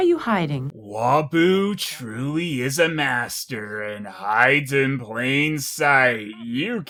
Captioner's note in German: 'Voice-Over